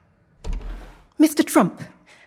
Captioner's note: door opening